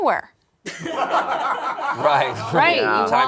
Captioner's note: group laughs